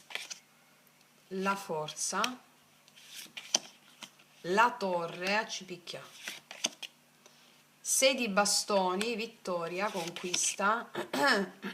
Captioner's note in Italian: schiarire la voce